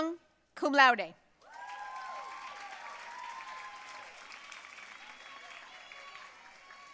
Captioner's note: audience cheering and applauding